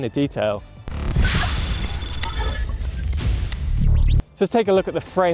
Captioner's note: robotic clicks and zaps